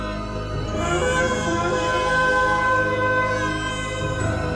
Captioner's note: baby crying